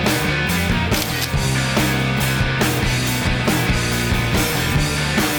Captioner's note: camera shutter snaps